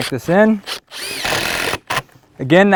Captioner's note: drill whirring, no additional audio